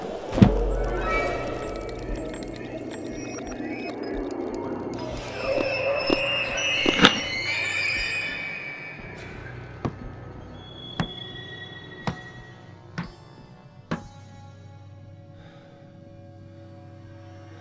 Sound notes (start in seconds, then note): 0.3 loud Bang; 5.4 slicing & Breaking Bone Sounds; 12.3 footsteps Fade Away